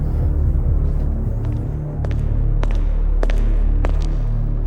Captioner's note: echoing footsteps